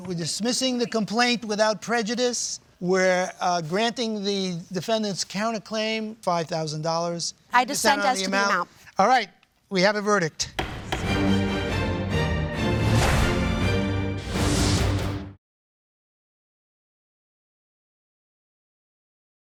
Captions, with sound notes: We're dismissing the complaint without prejudice. Where granting the defendant's counterclaim, $5,000. You dissent on the amount. - I dissent as to the amount. - Alright, we have a verdict. (gavel bangs) (dramatic music)